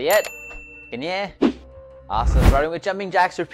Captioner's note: foreign language